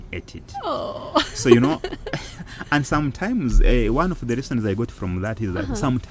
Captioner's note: laughing